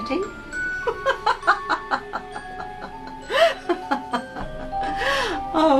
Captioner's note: Madame Carrozza laughs